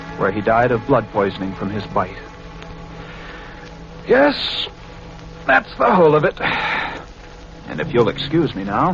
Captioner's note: yawns